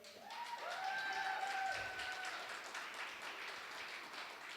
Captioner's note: cheering